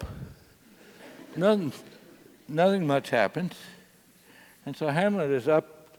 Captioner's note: laugh